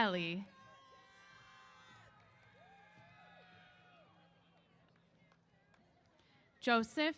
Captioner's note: cheers